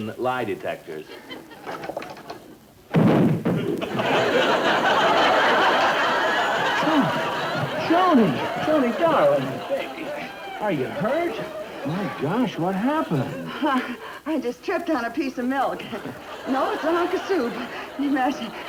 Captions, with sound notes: in lie detectors. (audience laughter) - Joan, Joan darling, are you hurt? Oh my gosh what happened? - I just tripped on a piece of milk, no I have been